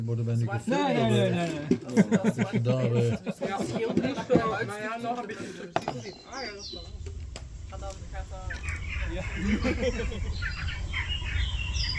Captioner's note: dutch chatter